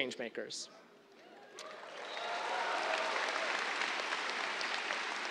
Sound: cheers, applause

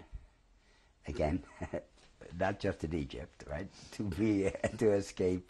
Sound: laughs

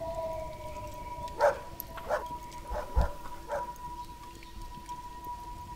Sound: dog Barking

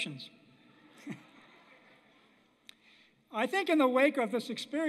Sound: laughter

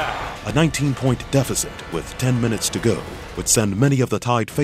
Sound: voiceover

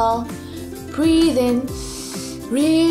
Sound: breathes in deeply

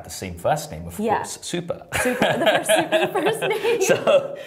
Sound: laughter

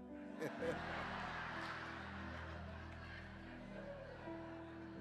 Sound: congregation laughing

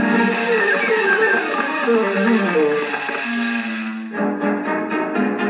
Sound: rustling

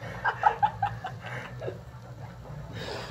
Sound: laughing Hysterically

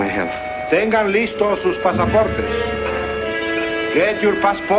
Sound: man announcing in spanish

